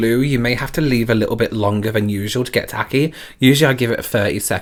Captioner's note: none